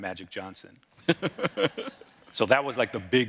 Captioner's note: laughing